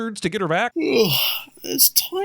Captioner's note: yawn